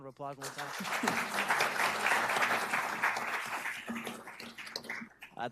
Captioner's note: audience applauding